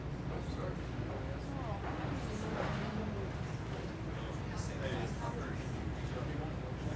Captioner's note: chatter